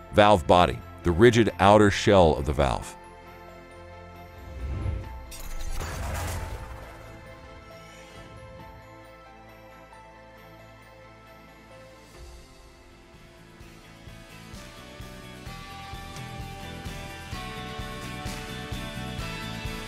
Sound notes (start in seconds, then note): 3.4 bright instrumental music continues; 5.2 metal clanking; 12.6 upbeat music